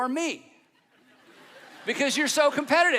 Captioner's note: audience laughing